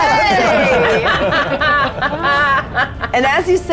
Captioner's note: players laughing